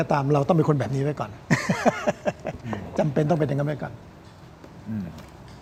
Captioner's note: laughter